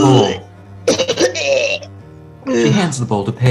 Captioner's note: chef vomiting